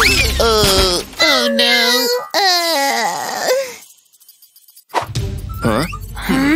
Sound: moaning

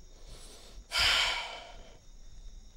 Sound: sighs

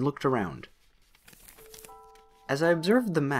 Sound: shuffles papers

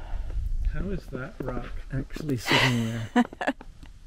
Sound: laughs

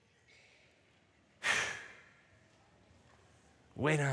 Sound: exhales heavily

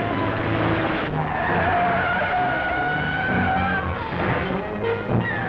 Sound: tires screeching

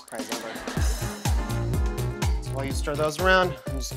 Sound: audience laughing

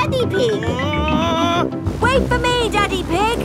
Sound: screaming

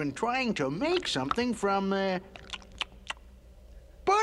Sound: smacks lips

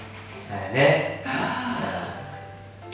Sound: A deep sigh

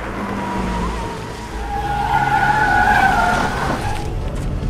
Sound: tires screech

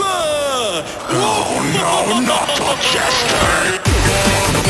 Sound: Majin laughs

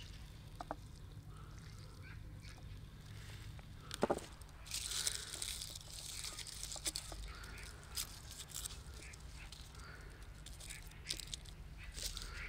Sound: sound of birds

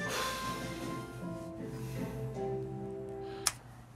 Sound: deep exhalation

